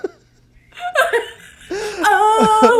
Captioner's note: both laugh